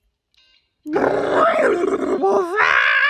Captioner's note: another, more intese gremlin screeches